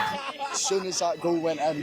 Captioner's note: cheering